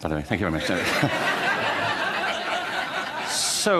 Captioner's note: laughter